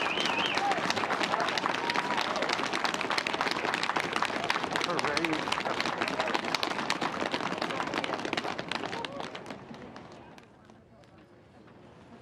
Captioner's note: applause